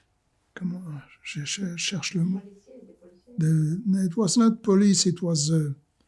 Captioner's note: french